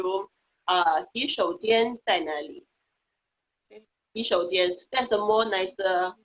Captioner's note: speaking foreign language